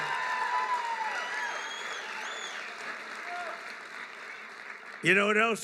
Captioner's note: applause